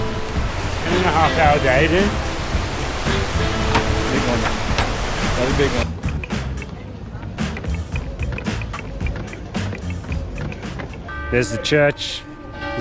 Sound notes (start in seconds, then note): 10.6 church bells